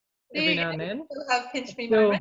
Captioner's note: mumbles